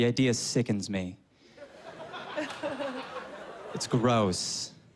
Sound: laughter

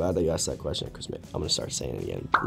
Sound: bubble pops

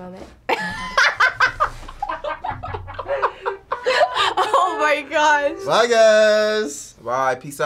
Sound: gasps

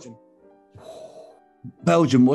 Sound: exhales

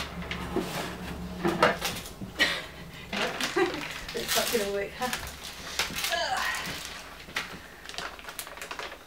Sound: laughs

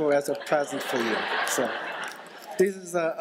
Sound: laughter

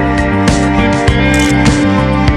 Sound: photo click

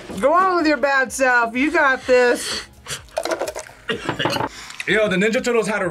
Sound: coughs

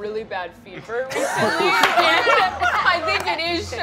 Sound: all laugh

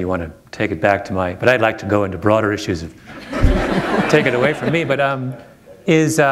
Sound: laughter

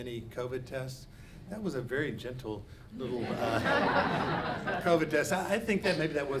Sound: audience laughs

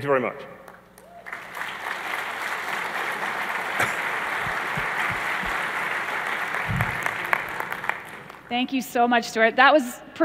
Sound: applause

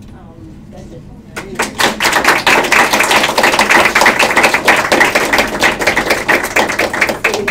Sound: applause

